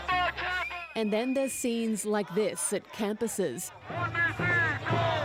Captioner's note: chants